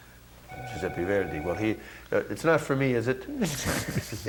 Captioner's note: phone ringing